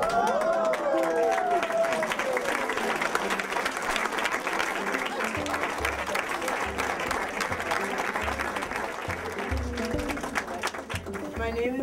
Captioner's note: applause